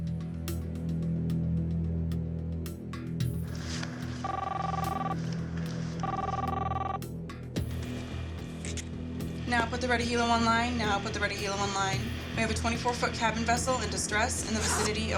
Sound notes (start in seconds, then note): 6.0 phone ringing